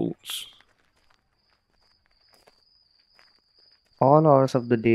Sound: the sound of footsteps and cicadas chirping

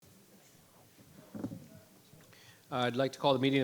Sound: audience members chatting indistinctly

